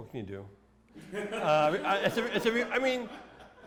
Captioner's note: laughter